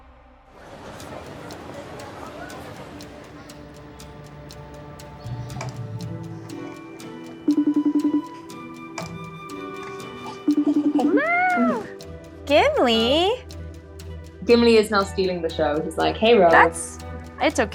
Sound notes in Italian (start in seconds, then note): 0.6 brusio indistinto; 7.5 squillo della videochiamata